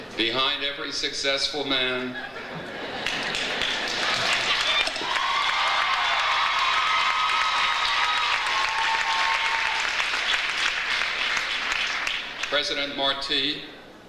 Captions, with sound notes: Behind every successful man. (audience laughs) (audience applauds) (audience cheers) President Martí,